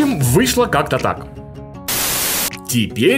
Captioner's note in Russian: пшшш